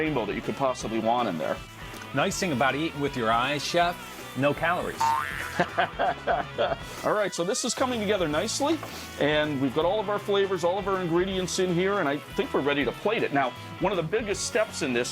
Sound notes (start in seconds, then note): 5.0 laughs